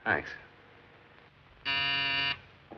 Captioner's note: buzzer